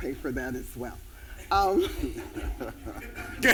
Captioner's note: laughter